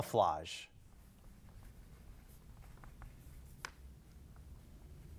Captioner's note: pencil scratching